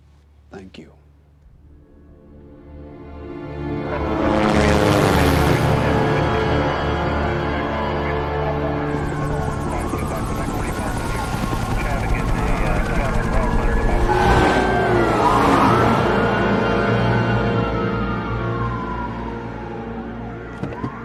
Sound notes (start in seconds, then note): 6.9 police radio chatter; 8.8 sirens blaring in distance